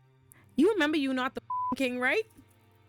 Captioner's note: beep